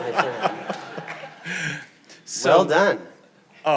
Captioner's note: audience laughing